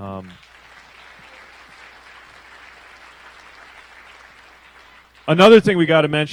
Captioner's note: applause